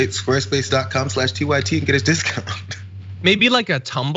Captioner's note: laugh